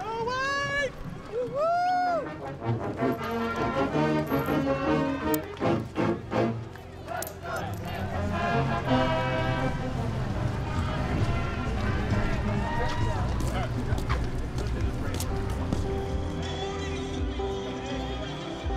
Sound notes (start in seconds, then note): 2.4 marching band music; 4.1 coins clinking; 4.6 marching band music; 13.6 soft piano music